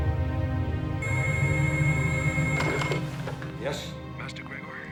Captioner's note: phone rings